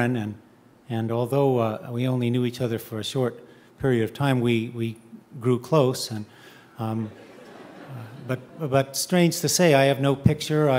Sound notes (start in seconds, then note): 7.0 audience chuckling